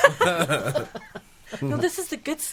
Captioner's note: laughing